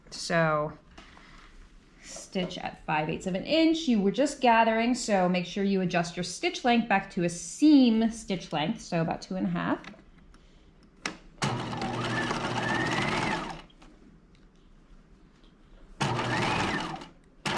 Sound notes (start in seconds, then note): 11.4 sewing machine whirring